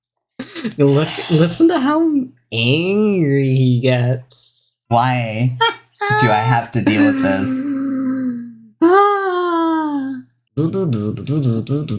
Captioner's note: laughing